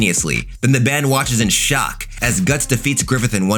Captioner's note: fire whooshing